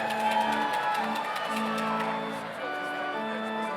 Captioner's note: audience cheers